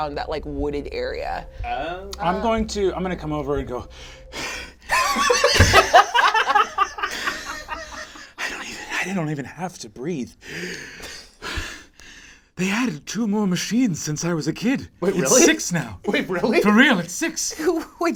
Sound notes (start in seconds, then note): 4.7 pants